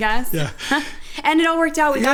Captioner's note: laughs